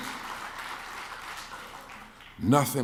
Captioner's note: clapping